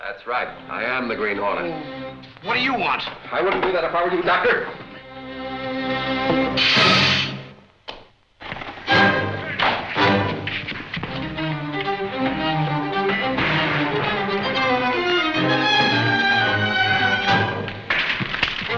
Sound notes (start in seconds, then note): 6.4 small explosion